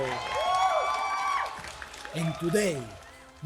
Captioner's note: audience cheering and clapping